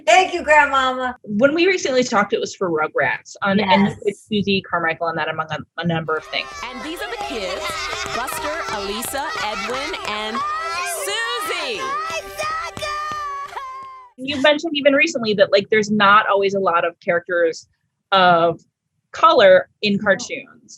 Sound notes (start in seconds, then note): 6.5 children yelling